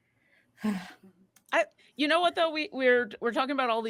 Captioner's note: none